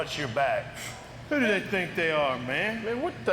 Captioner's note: Jeff snorts